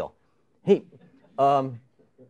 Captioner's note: chuckling